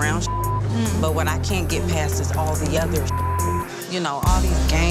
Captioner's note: beep; beep